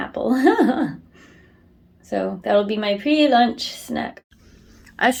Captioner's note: laughs